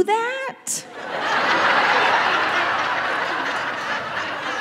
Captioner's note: audience laughing